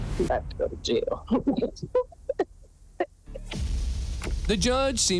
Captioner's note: giggling